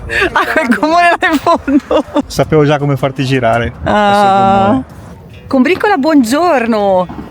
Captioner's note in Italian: risate